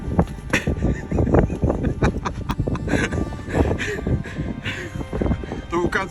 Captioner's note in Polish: śmiech